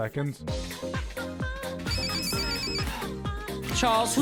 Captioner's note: ringtone